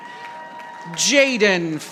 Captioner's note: audience applauding